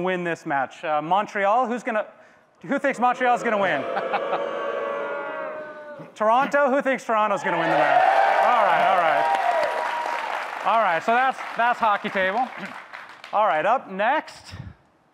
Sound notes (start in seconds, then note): 2.9 audience boo’s; 7.3 audience cheers